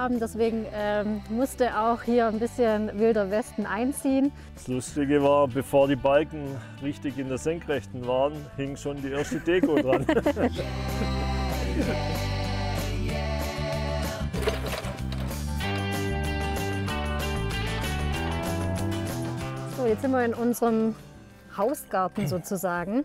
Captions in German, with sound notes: deswegen musste auch hier etwas Wilder Westen einziehen. Das Lustige war, bevor die Balken richtig in der Senkrechten waren, hing schon die erste Deko dran. (Sie lachen.) (Flotte Popmusik) Jetzt sind wir in unserem Hausgarten sozusagen.